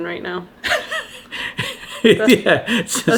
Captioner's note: laughs